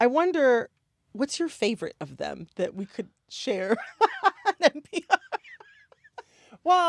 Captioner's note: laughter